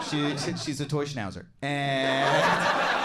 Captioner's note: crowd laughs